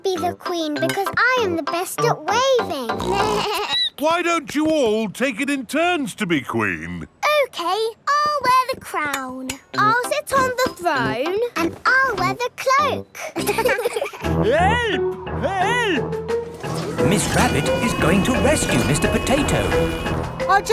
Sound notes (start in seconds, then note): 2.9 snorts; 3.0 bleats; 13.2 laughing